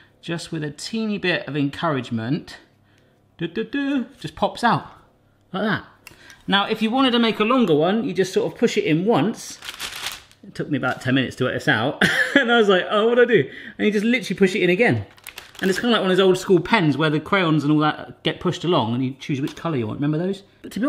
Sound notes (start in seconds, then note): 9.4 parchment rustling; 12.4 laughing